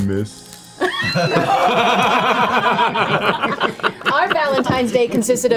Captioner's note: all laugh